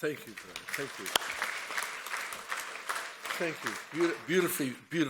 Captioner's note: audience applauds